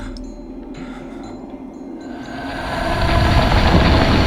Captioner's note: uneasy music; Alex panting